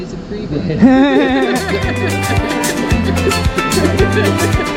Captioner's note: laughing